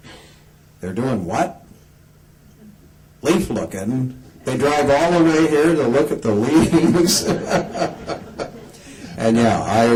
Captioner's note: laughs